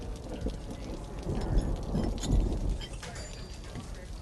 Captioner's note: clinking sound; rain falling/babbling